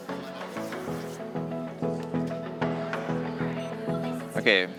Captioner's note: background chatter